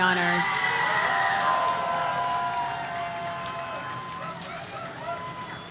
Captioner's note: audience cheering